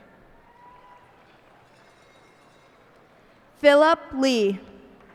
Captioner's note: cheers and applause